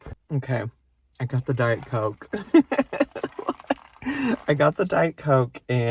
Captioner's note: laughs